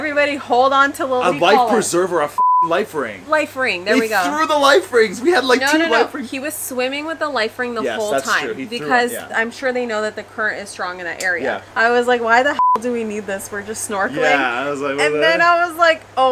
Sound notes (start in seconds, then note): 2.4 beep; 12.5 beep